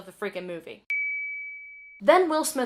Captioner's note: ding